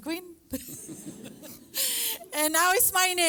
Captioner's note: laughter